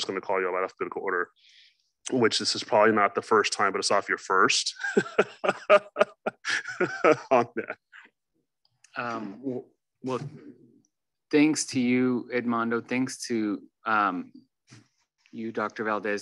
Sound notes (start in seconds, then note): 4.7 laughs